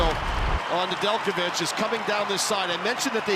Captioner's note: cheering